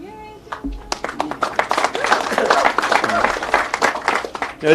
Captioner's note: people applauding